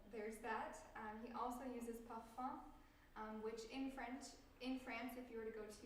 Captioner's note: french